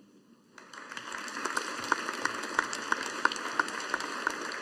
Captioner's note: audience applauding